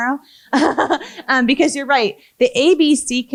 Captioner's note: laughs